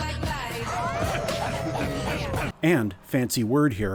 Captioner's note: wolves howling